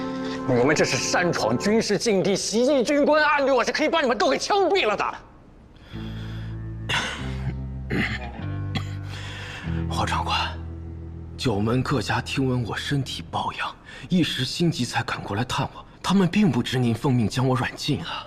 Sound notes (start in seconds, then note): 7.8 cough cough